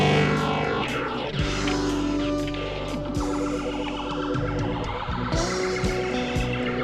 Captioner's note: upbeat music; video game beeping